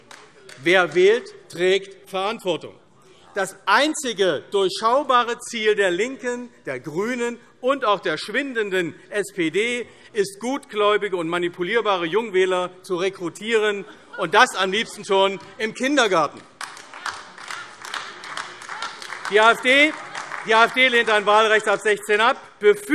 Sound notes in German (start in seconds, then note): 0.0 Beifall AfD; 16.3 Beifall AfD